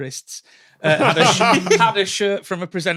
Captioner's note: laugh